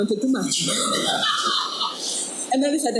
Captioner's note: audience laughing